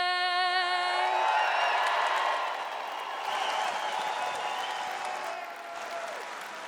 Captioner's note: audience cheering and applauding